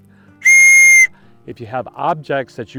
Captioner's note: whistles